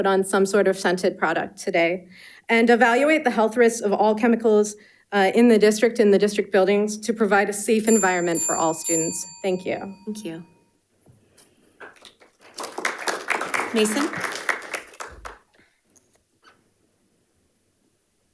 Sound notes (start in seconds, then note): 7.8 bell dinging; 11.9 audience applauding